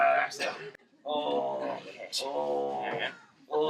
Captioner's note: moaning